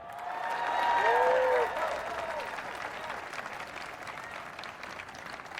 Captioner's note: audience applauds and cheers